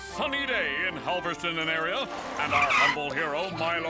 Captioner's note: bike tires screeching